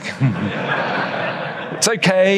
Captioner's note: audience laughs